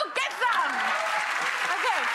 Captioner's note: crowd applause